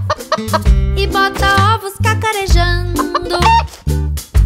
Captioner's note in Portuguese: som de galinhazinha; som de galinhazinha